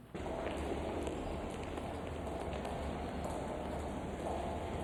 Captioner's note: feet clacking